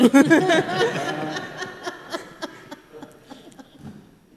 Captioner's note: group laughs